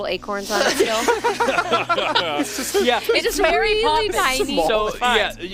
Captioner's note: George laughs